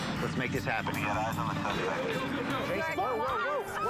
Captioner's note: on phone